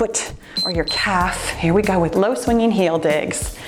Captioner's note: timer beeps